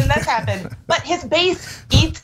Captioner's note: laugh